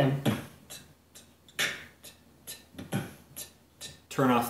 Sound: beat boxing

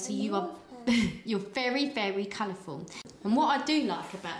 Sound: laughs

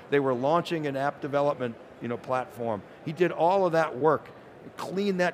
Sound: none

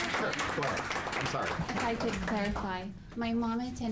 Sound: applause

